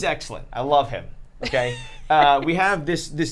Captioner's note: laughs